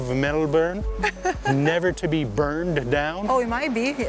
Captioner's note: laughs